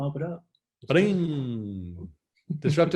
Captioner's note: humming